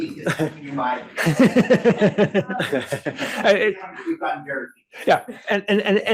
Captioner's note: laughing